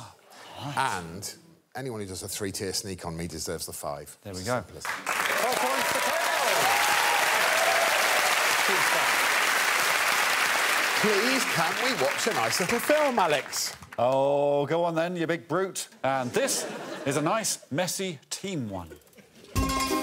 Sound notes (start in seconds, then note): 7.5 audience cheers and claps; 19.6 theme music playing